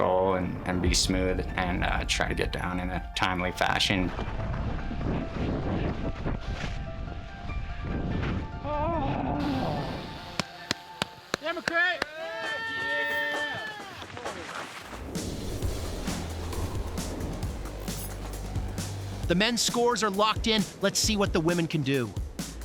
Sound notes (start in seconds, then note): 12.4 shouting